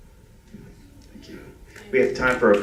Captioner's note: applause